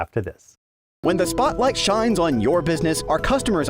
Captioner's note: voice-over